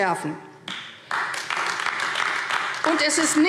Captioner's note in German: Beifall AfD